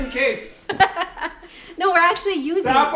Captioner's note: laughs